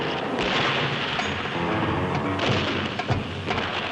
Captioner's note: guns firing